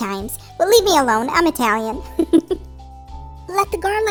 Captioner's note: chuckle